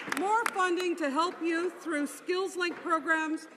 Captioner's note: some Applause